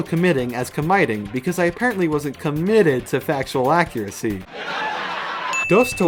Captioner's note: laugh track